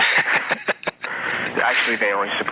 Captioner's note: man laughing